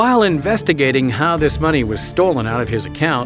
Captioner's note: voiceover